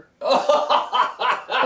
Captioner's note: laughter